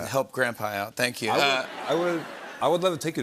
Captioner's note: laughter